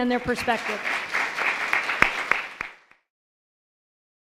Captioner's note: audience applauds